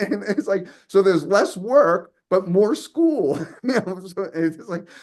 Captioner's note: laughs